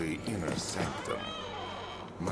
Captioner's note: door creaking